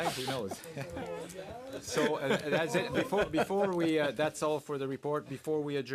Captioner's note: laughter